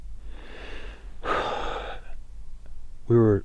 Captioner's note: deep breath